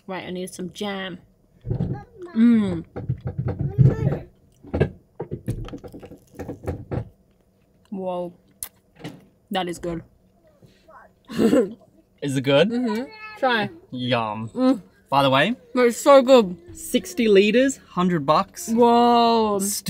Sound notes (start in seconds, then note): 4.0 rattling; 11.3 chuckles